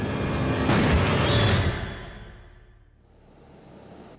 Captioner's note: gun firing